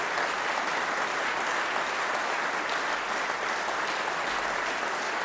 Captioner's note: applause